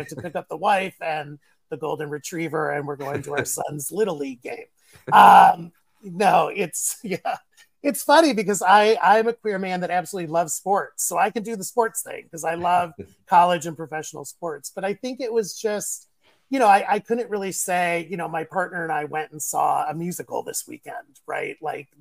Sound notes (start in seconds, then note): 5.0 laughter